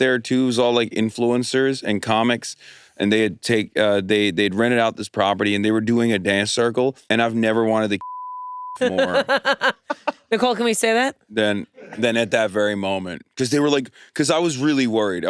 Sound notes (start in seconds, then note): 8.0 beep; 8.8 laughs